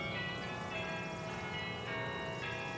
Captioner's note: wedding bells